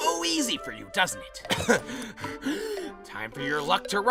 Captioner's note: coughs and gasps